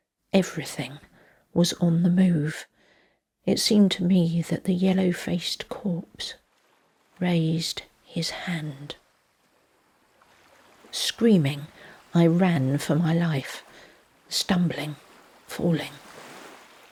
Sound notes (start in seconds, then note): 9.0 quiet sounds of the sea